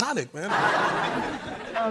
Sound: laughter

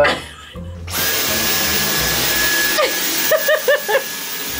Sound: vacuum whirring

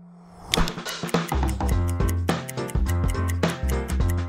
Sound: stopwatch ticking

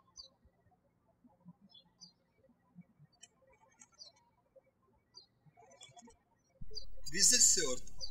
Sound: birds chirping

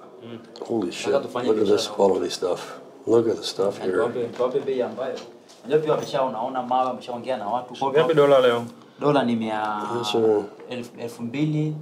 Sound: speak Swahili; continue talking in Swahili

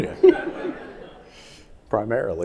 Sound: audience laughing

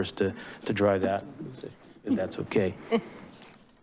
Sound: chuckles

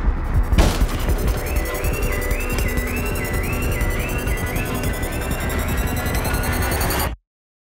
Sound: alarm sounds, music intensifies

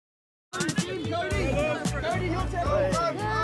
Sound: all yell

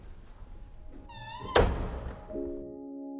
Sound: door clicks shut

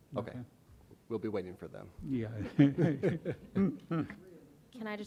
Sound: chuckles

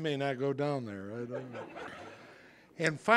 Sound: audience laughing

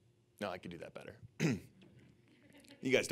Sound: throat clearing

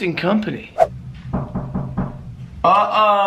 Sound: quiet knocking 4 times

